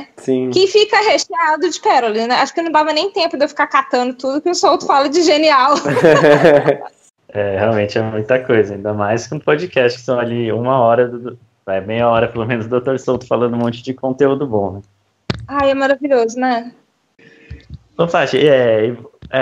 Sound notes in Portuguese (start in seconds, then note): 5.7 Risos